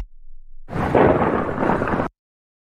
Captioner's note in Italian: FX - Thunder - 01